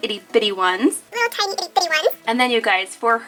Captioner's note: talking in fast forward